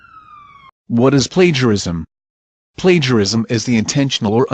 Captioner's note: emergency siren plays